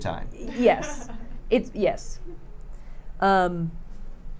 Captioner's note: laughing